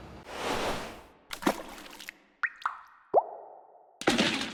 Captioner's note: splashing and dripping